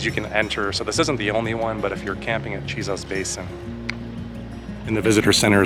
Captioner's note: clicks